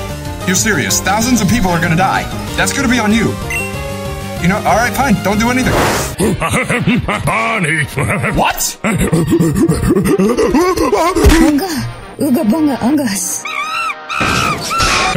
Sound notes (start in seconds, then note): 5.9 grunting; 8.8 grunting; 13.4 chimp noises